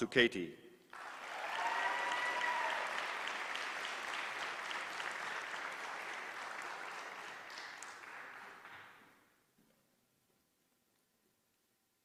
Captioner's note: applause